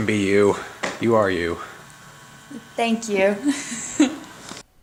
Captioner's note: giggles